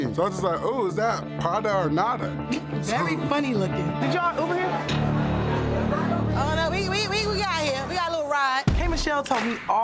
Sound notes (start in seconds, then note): 0.6 tense droning music; 2.7 laughs; 8.6 tense hip-hop music